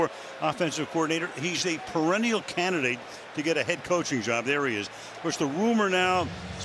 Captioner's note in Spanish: hablado en inglés